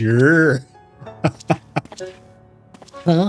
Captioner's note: laugh